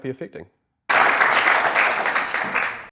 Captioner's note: audience applauding